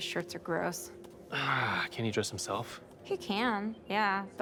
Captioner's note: sighs